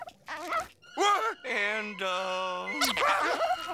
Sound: squeaking

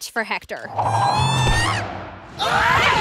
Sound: screams

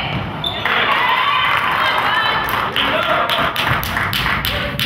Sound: crowd claps

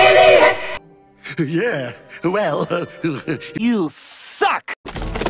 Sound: chuckle

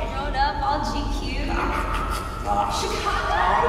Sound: gagging

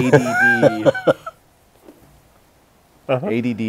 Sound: laughs

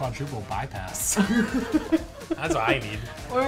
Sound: laughs

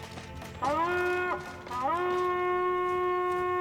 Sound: horn sound

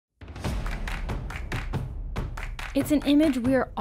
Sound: upbeat music; rhythmic clapping

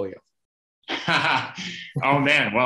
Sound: laughing

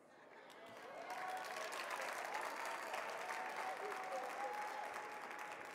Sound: audience clapping

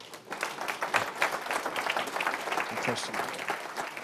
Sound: applause

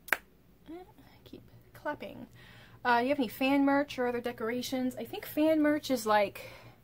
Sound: i keep clapping

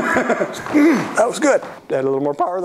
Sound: laughter; ahem

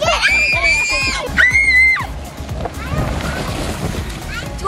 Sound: kids screaming

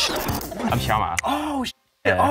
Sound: speaks foreign language

